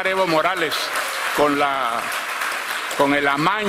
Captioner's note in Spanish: aplausos